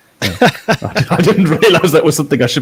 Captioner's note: laughing